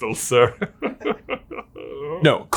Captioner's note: laughing sarcastically